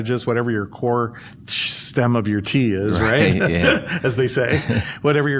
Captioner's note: chuckles